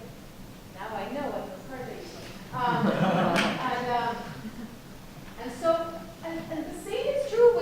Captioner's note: laughter